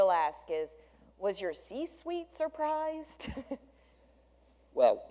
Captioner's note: laughs